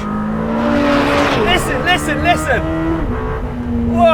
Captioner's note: car revs